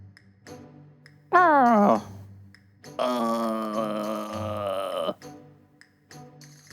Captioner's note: groan